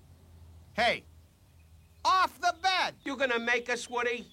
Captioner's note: SHOUTlNG